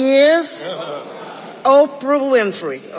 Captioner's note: audience laughing